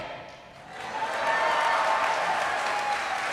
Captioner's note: applause